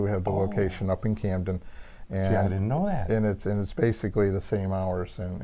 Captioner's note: none